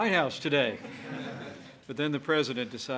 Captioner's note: laughter